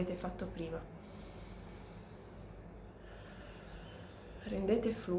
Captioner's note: inhaling and exhaling